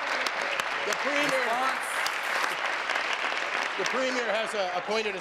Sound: applause

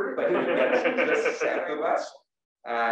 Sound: laugh

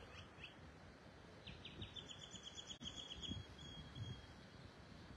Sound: bird chirping

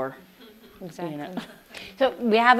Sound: audience laughs

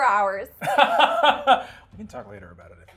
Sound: laughs

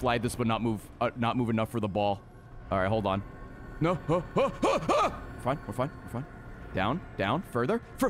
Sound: screams

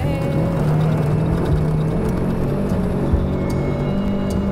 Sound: buggy revving

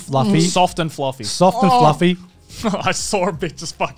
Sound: moans

